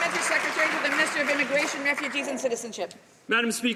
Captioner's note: some Applause